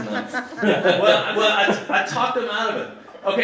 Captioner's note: audience laughing